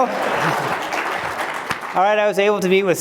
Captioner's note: applause